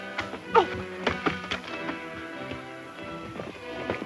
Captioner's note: Mary gasps